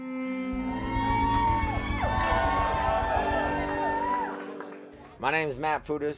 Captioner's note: cheers and applause